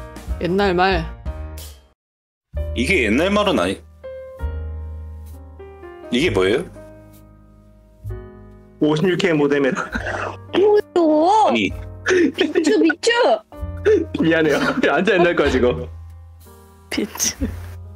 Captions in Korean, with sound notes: 옛날 말~ 이게 옛날 말은 아니... 이게 뭐에요? 56K 모뎀이요 ㅋㅋ 뭐에요~! [악당의 웃음소리] 비추! 비추! 흑 미안해요ㅋㅋ 완전 옛날거에요 이거 비추...ㅋㅋㅋ